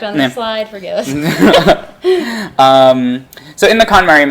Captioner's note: laughing